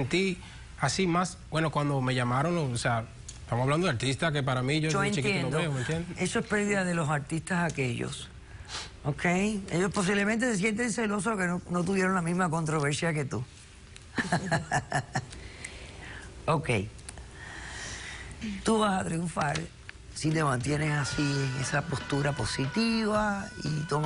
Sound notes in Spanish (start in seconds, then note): 17.4 Ríe